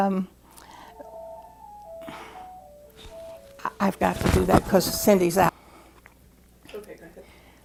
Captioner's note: phone Ringing